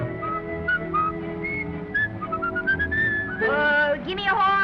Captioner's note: whistling